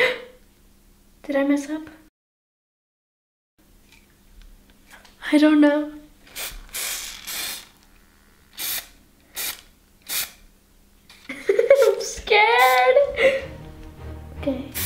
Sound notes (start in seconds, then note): 0.1 gasps; 6.2 spray paint oozing; 11.3 laughs